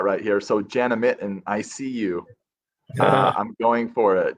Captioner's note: murmurs